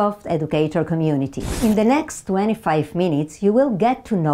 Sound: slide whooshes

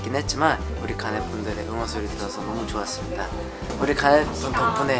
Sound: chanting

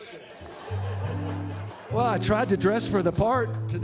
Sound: audience laughs

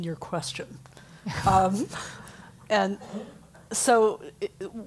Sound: laugh

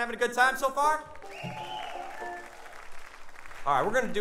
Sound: cheering

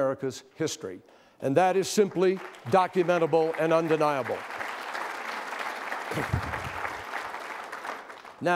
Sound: applause

